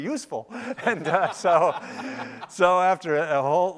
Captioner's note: laughing